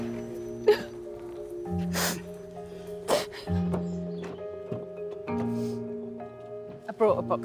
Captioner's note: crying